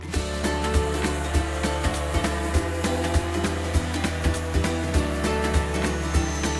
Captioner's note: upbeat music; sander whirring